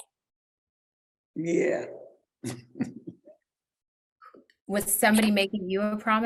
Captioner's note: laughs